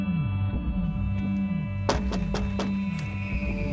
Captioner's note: knocking on door